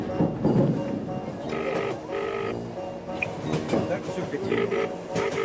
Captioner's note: ringing tone